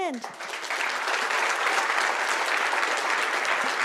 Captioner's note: audience applause